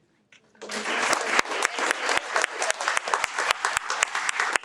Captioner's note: audience applauds